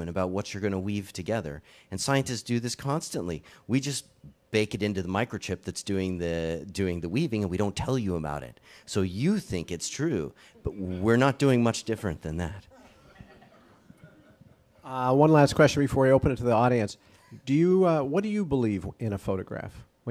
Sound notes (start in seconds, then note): 12.7 audience chuckles